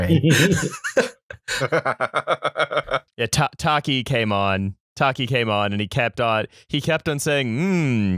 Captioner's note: laughter